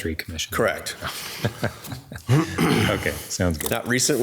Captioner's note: chuckling